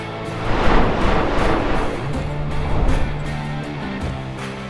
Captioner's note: flames roaring